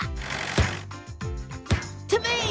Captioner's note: ball Thumping